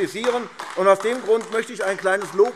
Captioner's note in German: Beifall AfD